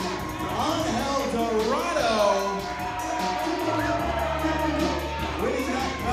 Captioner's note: crowd cheering